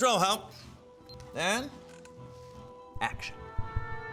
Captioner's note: camera beeps; heartbeat pounding